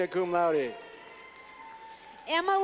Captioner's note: clapping